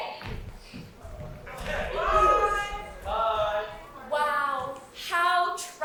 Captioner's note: audience shouting BYE!